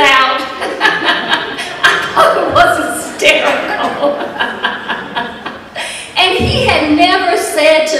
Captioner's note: laughter